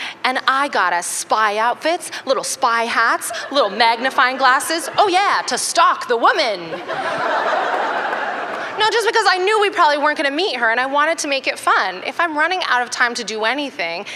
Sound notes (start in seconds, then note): 6.5 laughter